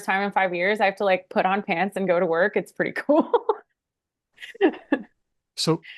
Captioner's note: laughs